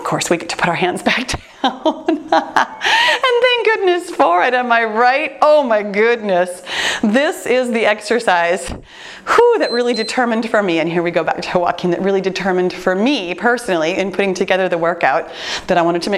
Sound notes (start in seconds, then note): 1.2 laughs; 9.5 heavy sigh; 9.6 timer beeps